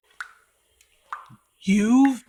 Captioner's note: dripping